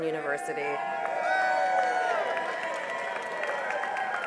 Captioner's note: cheering and applause